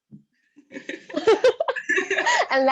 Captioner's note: giggling